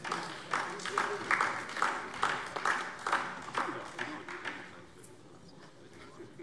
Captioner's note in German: Beifall DIE LINKE